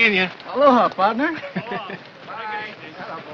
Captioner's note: chuckles